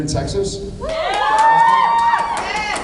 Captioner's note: cheers, applauds